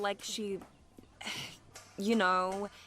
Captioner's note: sighs uncomfortably